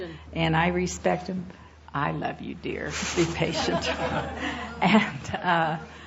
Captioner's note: laughter